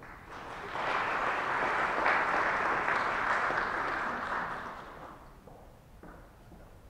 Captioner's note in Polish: oklaski